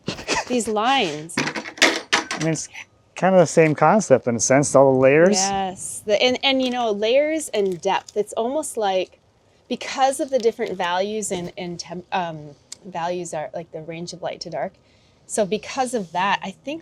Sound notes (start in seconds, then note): 0.0 chuckles; 1.7 metal clanking